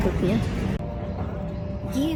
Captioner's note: jet engine humming